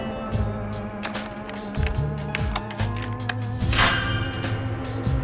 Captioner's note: lock being manipulated, SCHWING!